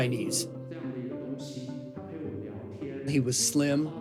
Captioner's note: soundbite of archived recording; speaking Chinese